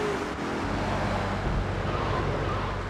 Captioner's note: car engine roaring